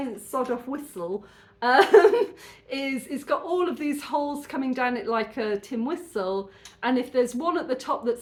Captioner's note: laughing